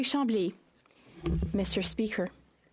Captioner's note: speaking French